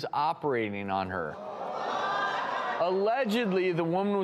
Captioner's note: audience shouts